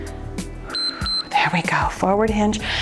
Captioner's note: timer beeps